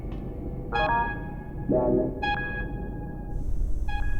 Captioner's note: alert beeping